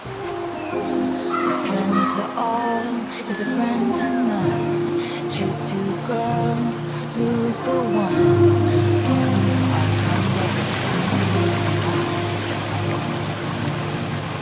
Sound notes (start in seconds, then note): 9.0 flowing water obscures singing